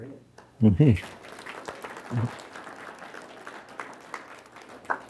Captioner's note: audience applauding